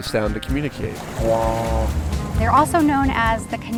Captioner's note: trumpeting noise